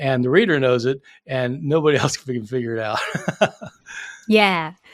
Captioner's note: chuckling